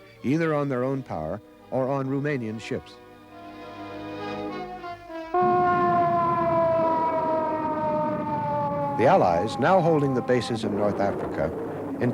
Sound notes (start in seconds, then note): 5.3 siren wails